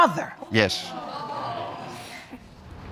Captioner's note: audience exclaims